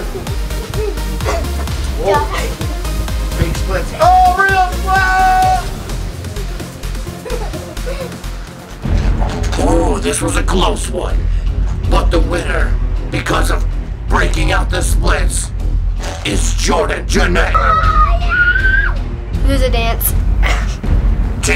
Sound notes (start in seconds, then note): 0.2 dance music; 5.5 dance music; 17.8 cheers